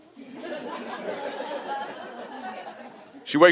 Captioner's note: audience laughing